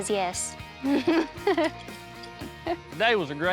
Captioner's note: giggling